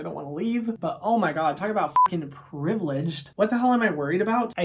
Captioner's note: beep